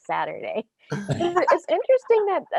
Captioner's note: laugh loudly